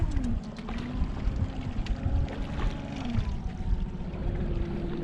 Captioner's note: boat engine running; fish splashing